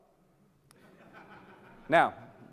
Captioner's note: audience laughing